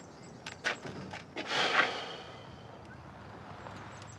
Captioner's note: sighing